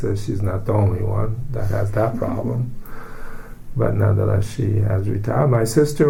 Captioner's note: laughs